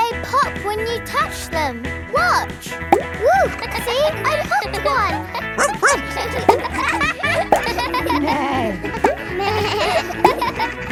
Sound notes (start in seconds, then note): 3.8 kids laughing; 5.5 barks; 8.5 bleats; 8.5 neighs